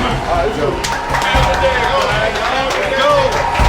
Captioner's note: clapping - Cheering